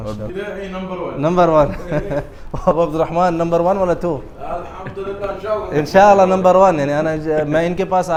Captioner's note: Arabic